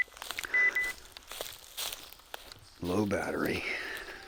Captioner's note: phone beeping